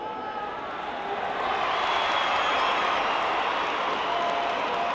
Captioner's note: crowd cheering